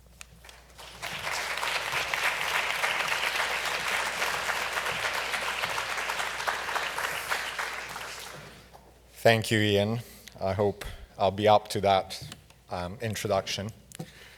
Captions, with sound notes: (audience clapping) - Thank you, Ian. I hope I'll be up to that introduction.